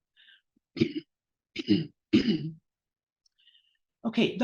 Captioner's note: clears throat